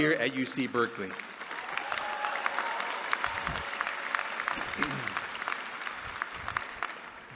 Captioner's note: applause